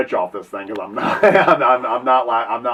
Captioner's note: laughs